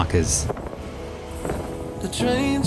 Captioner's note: wind blowing